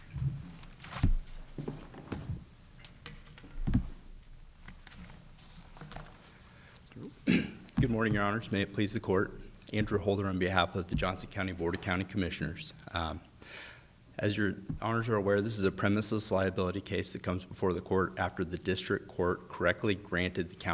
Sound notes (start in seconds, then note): 0.4 page shuffling; 0.7 folder thudding; 4.7 paper scuffling; 7.0 clears throat